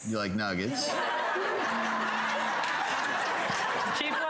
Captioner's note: audience laughing